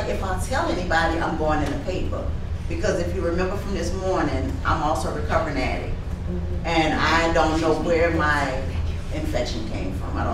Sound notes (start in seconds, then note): none